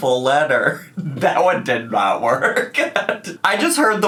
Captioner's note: laughs